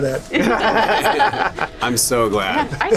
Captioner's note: laughing